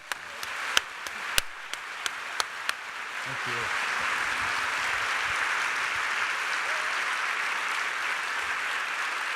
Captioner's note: applause